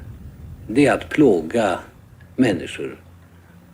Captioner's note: Palme speaking Swedish